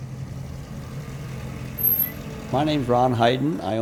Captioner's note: brakes squeak; car engine rumbles